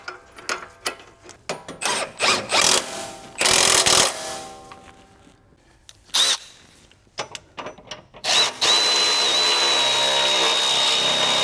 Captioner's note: drilling